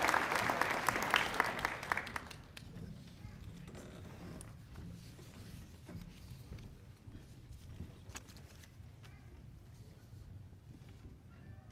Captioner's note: applause